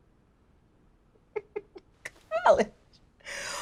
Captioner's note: chuckles